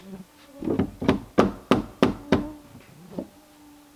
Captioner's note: hammering